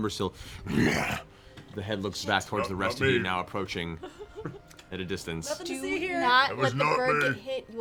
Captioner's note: grunting